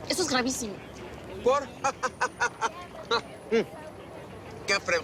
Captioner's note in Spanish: Carcajada